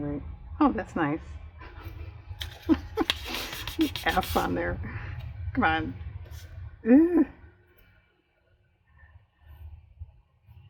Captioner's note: laughs